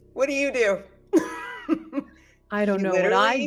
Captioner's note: laughs